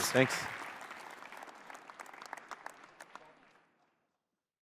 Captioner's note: applause